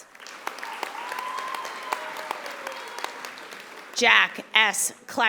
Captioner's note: audience applauding